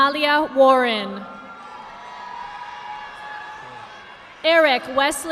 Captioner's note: audience applauding